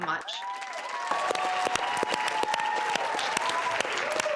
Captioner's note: applause